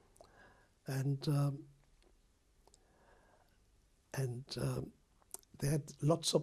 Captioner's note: pauses for 3 seconds